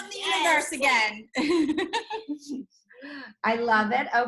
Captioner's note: laughs